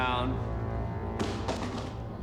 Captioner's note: gun drops